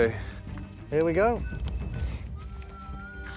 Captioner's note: beeping